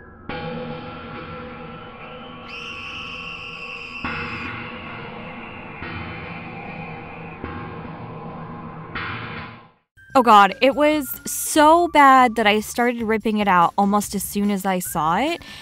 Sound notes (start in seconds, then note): 0.3 haunting Music; 2.9 dramatic Scream